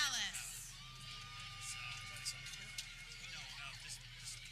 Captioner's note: people cheering